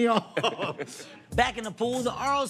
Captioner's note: laughs